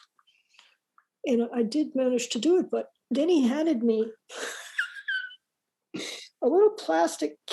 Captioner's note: laughs